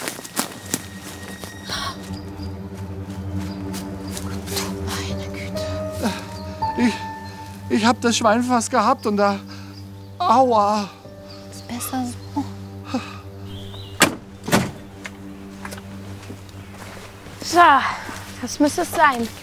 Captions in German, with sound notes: (Bedrohliche Musik) (entsetzt:) Du meine Güte. Ich ... hab das Schwein fast gehabt, und da ... Aua! Ist besser so? (Schmerzvolles Stöhnen) So, das müsste es sein.